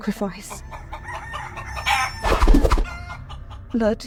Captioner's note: cockerel crows